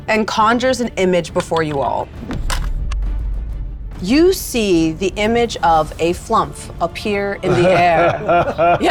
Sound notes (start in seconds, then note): 2.3 die rattling; 7.4 laughing